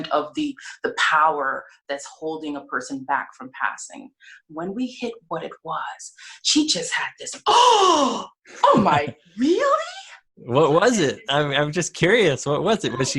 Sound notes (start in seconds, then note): 8.7 laughs